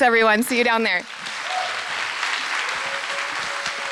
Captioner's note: applause